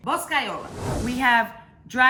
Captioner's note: air whooshing